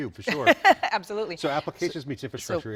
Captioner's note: laughing